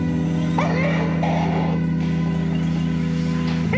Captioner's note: bears crying